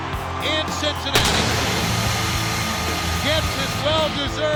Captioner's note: pyrotechnics bursting